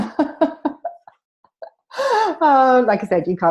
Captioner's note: laughing